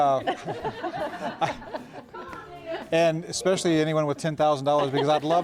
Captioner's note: �laughing�